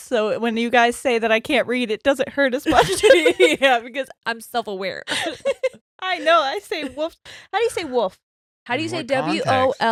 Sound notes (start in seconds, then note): 2.7 laughing; 5.3 laughing